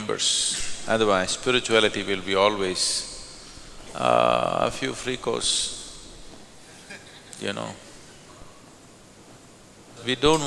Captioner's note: laughter